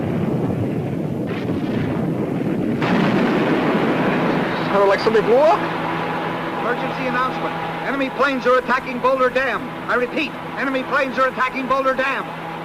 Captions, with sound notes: (explosion booming) - Sounded like something blew up. - [Radio Announcer] Emergency announcement. Enemy planes are attacking Boulder Dam. I repeat, enemy planes are attacking Boulder Dam.